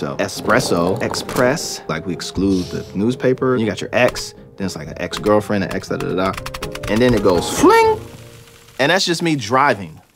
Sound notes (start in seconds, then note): none